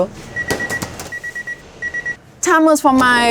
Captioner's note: oven beeping